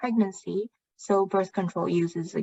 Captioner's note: speaking chinese